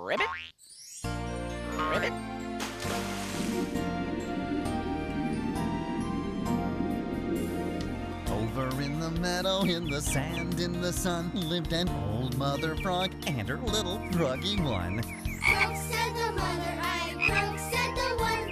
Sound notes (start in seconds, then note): 2.5 splash!